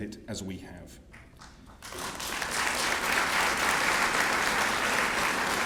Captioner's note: applause